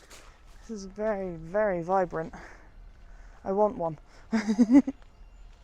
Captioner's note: laughs